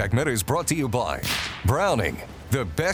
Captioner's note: gun banging